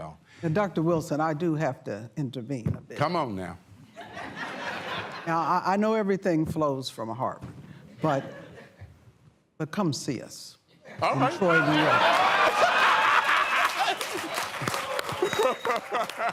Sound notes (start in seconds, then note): 3.9 laughter; 11.2 laughter and applause